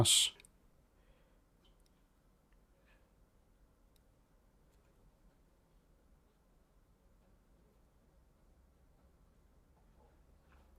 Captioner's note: silence